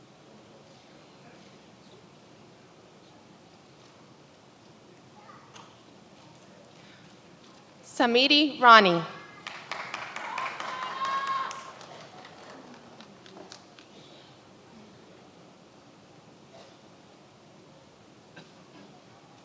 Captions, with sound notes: Samiti Rani. (many applauding)